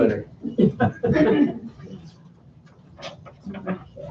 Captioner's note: laughter